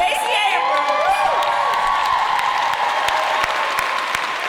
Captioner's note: applause